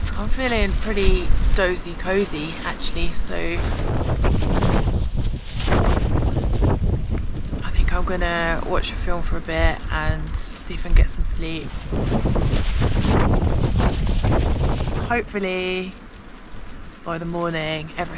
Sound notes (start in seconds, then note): 3.7 wind; 11.8 wind